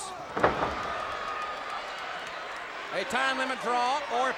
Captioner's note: audience cheers